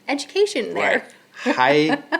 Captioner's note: laughing